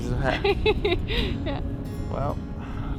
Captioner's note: laughs